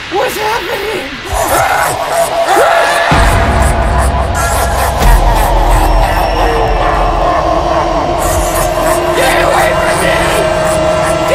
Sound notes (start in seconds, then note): 3.0 Jack laughing